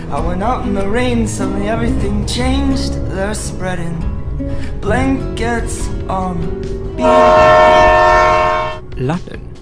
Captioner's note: loud Train Horn